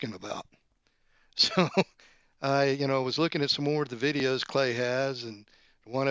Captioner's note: laughs